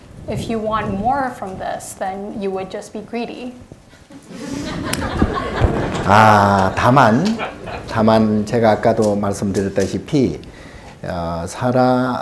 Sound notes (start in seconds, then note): 0.0 speaking Korean; 4.1 audience laughing; 5.0 speaking Korean